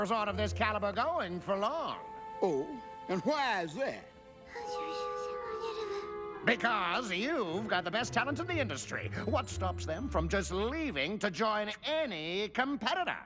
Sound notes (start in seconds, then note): 5.2 whispers